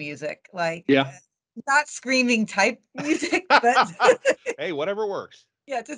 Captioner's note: laughing